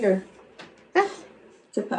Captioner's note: laughs